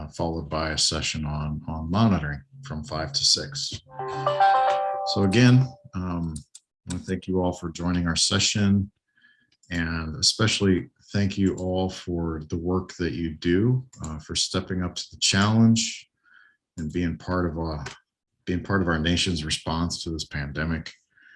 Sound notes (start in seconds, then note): 3.8 computer beeps